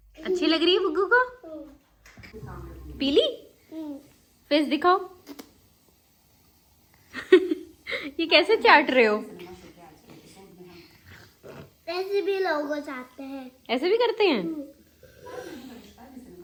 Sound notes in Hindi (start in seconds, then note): 7.1 हंसी